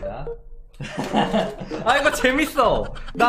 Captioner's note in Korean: 웃음 소리